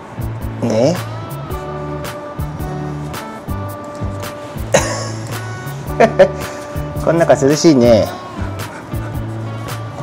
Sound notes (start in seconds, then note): 4.7 laughs